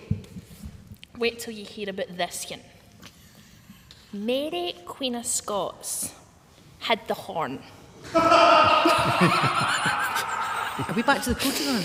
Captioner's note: laughter